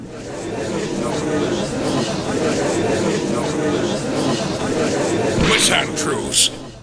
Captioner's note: gallery chattering